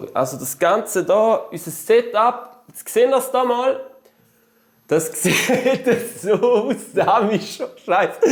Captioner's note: laughter